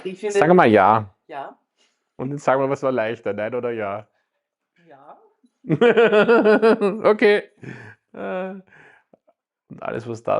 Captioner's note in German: gelächter